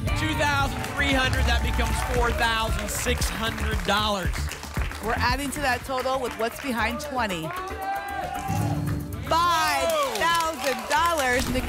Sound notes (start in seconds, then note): 3.5 applause